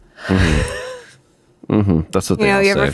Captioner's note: laughs